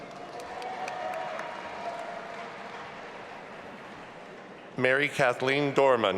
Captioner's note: audience applauding and cheering